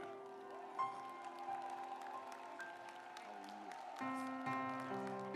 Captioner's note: audience applauds